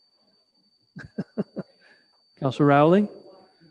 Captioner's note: chuckles